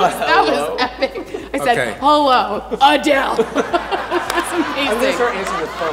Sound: laughs

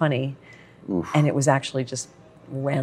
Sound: makes defeated sound

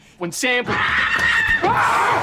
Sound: screaming

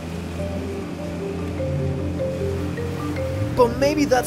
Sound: water splashing; engine roaring

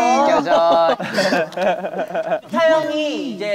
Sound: laughing

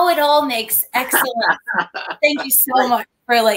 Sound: laughter

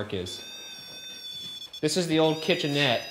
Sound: REM-Pod beeping

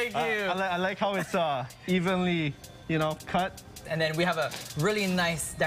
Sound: laughter

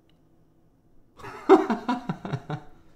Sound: laughs

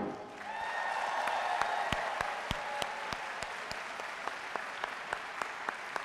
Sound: audience cheering and applauding

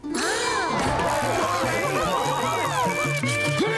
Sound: cheering

